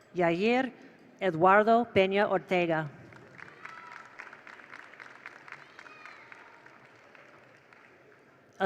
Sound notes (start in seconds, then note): 3.1 attendees applaud; 3.2 attendees cheer